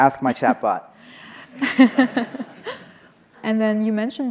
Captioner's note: laughing